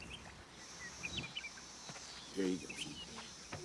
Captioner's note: birds chirping